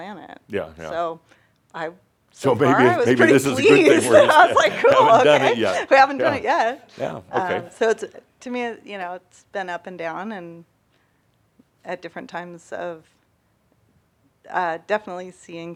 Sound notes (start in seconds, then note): 2.5 they laugh